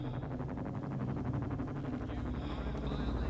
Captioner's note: helicopter approaching